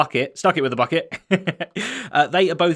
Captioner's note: chuckles